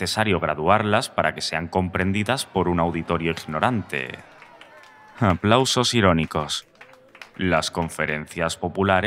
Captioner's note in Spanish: Aplausos irónicos